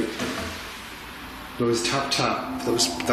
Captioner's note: tapping